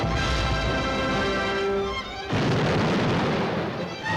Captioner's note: cannon firing